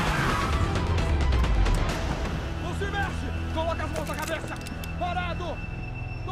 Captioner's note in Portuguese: gritos indistintos